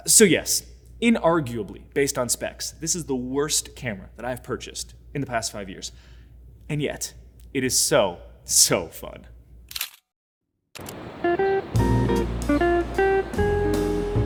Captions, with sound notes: So yes, unarguably based on specs, this is the worst camera that I've purchased in the past five years, and yet it is so, so fun. (camera clicking) (jazz music)